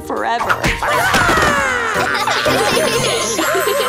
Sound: laughing

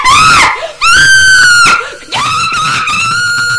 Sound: screaming

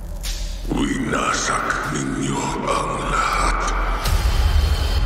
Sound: sinister voice

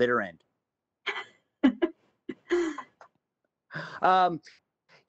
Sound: laughs

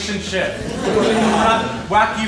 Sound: laughs

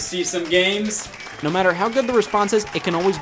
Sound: crowd applauds

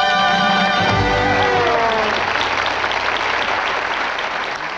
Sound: audience applauds

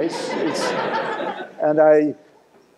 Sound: laughter

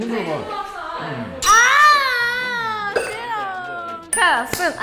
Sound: screams

